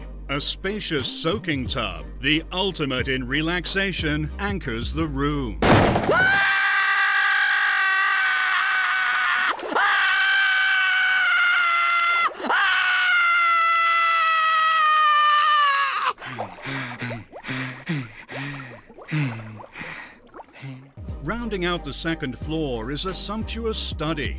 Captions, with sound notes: A spacious soaking tub, the ultimate in relaxation, anchors the room. [screaming] [panting] Rounding out the second floor is a sumptuous study